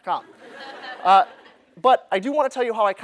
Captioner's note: laughter